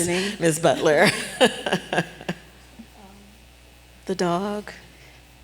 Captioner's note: chuckling